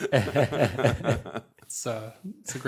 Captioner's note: laughter